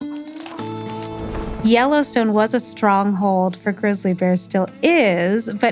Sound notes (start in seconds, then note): 0.0 text rustling; 0.3 lively country music